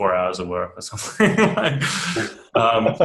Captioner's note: laughs